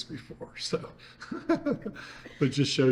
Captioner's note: laughs